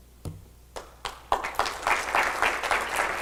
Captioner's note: applause